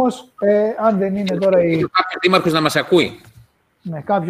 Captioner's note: Γέλια